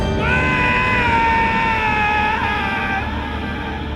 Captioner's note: yelling